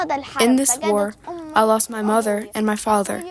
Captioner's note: through translator